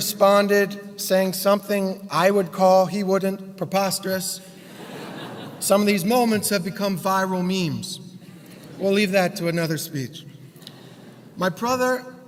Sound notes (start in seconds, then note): 4.7 laugh